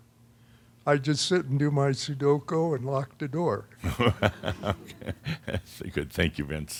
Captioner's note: Adamus chuckles